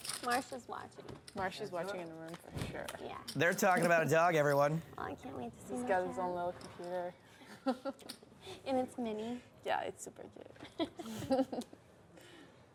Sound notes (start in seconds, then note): 3.9 laughs; 8.4 laughs; 12.0 laughs